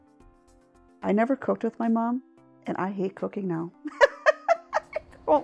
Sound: laughs

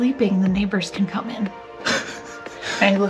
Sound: laughs

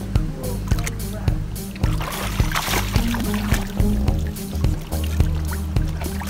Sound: water sloshing

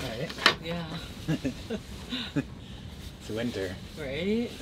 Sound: laughs

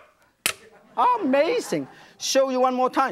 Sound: audience laughs

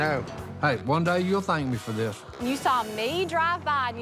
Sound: none

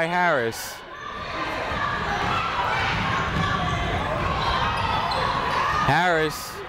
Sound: people shouting in the crowd

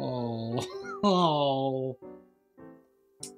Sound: laughs

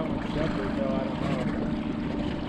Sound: boat engine idling

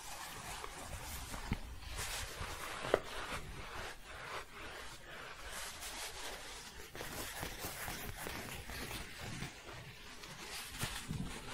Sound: shuffling and scratching

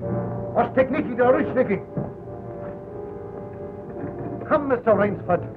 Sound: speaking russian

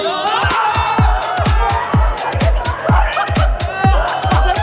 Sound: group shouts

